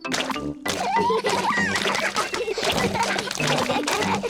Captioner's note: all laugh